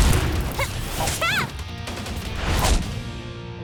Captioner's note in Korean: 기합